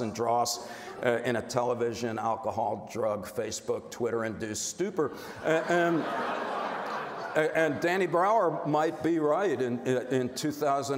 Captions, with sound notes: and draws in a television, alcohol, drug, Facebook, Twitter-induced stupor. And... (crowd laughing) And Danny Brower might be right, in 2007,